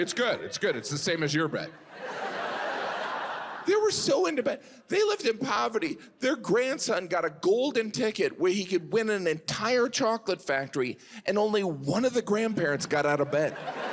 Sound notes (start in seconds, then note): 2.1 audience laughs; 13.2 audience laughs